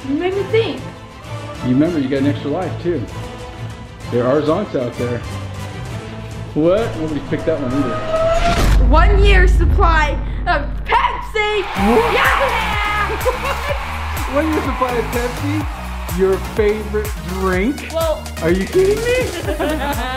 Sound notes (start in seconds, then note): 11.1 crowd cheering; 18.9 laughing